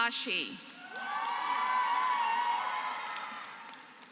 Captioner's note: applause